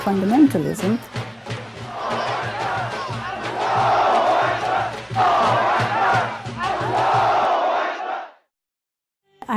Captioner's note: chanting